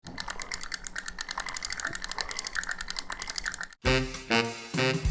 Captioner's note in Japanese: リールの音